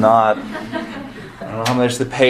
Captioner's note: audience laughing